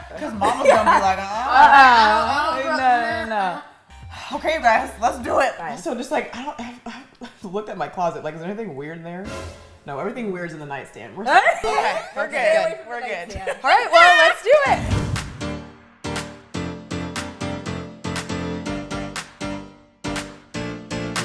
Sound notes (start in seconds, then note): 9.3 dramatic sound effect; 13.6 upbeat music